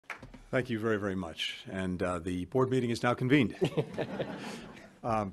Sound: laughter

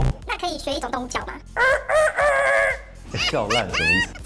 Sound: imitation of a chicken that's about to be slaughtered

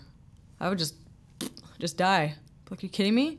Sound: blows raspberry

